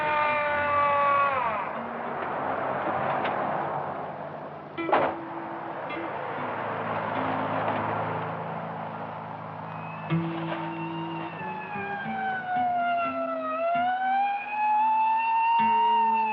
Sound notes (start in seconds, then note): 0.0 siren stops; 9.2 siren blaring